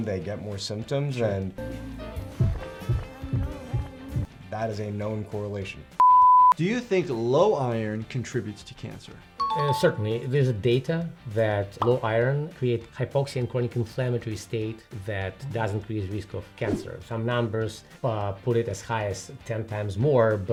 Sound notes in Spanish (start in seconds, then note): 2.5 el corazón late; 6.0 suena un pitido